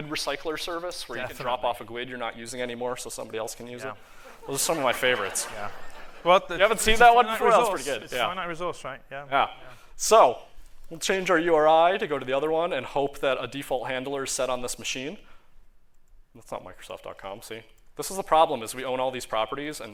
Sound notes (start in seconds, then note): 8.3 laughter